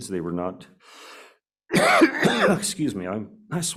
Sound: coughs

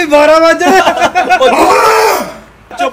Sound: scream

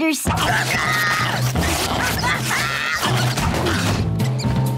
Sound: screaming

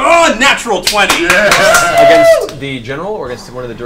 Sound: all cheer

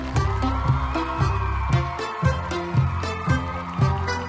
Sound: happy lively music; people cheering

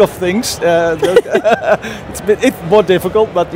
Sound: chuckle

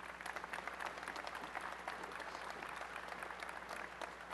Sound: applause

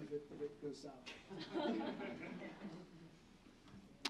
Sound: laughter

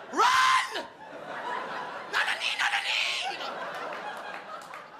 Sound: Bobby screaming

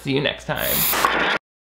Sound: static

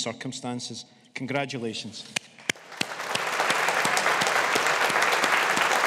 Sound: audience applauding

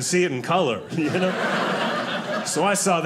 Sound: audience laughing

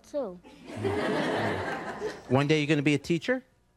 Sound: audience members laughing

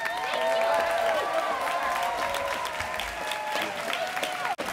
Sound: cheering and applause

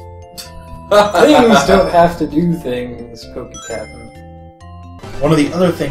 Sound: laughs

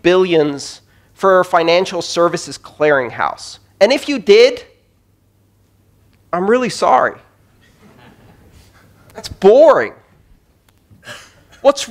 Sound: laughter

